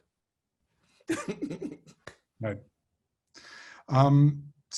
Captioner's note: laughs